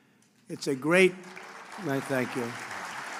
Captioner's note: applause